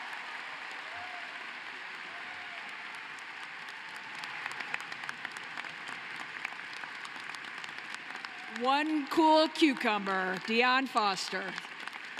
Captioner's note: cheering and applause